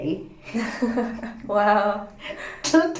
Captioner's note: laughs